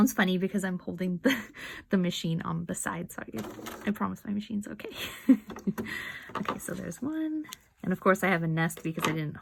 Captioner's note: chuckle